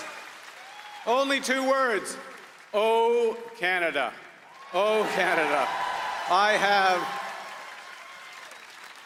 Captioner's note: cheers and Applause